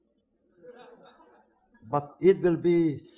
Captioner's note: audience laughs